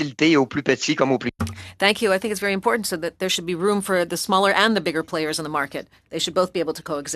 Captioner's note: speaking French